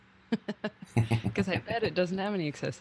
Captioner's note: chuckling